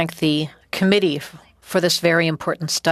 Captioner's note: speaking French